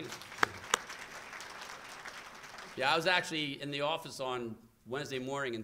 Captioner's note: applause